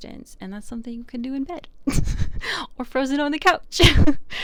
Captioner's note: laughs